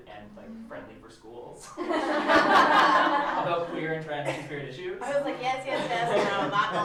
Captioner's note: laughter